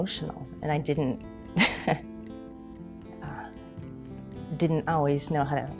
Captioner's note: laughing